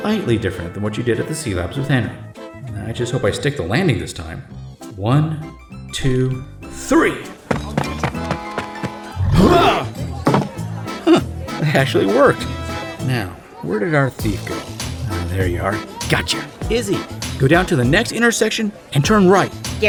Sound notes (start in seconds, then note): 7.4 running, Cyclops and Gareth grunt